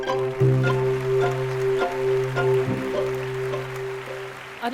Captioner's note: applause